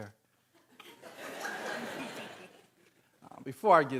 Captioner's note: audience laughing